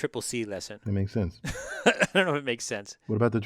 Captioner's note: laugh